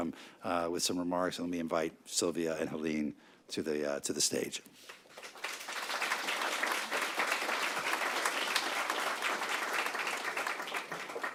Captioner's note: applause